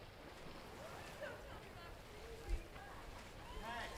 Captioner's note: people chatting